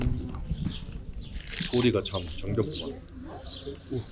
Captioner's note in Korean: 지저귀는 새소리